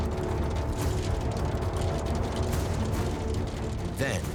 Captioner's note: stones hitting roofs